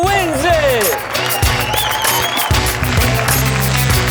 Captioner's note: cheering